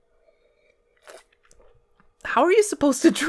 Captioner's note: slurp